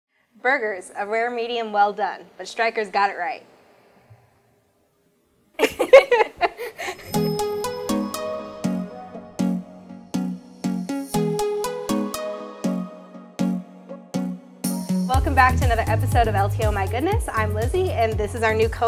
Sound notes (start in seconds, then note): 5.6 laughing; 7.2 upbeat house music